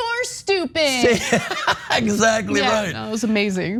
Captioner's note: laugh